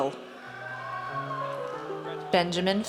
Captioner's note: audience cheers